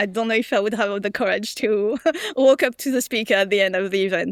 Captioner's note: chuckles